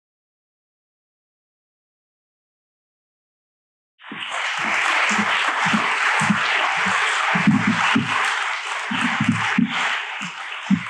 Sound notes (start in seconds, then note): 4.0 applause